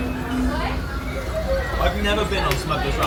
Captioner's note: children chatter